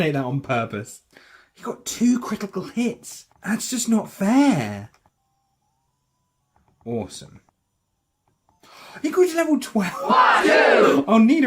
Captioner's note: gasp